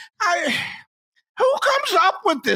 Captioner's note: sigh